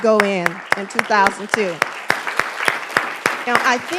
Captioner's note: applause